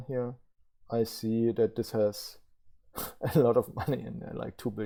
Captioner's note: laughs